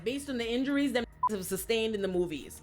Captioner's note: beep